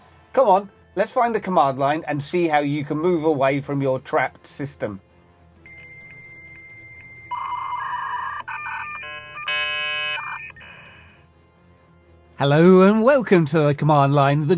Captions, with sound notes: Come on, let's find the command line and see how you can move away from your trapped system. [beeping] Hello and welcome to the command line,